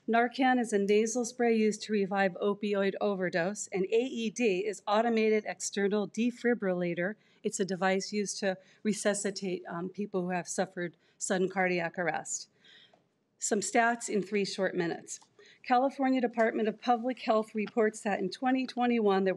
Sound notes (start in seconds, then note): none